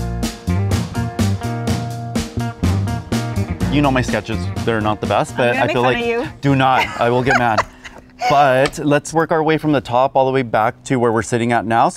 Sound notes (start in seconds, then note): 0.0 upbeat music; 5.3 laughing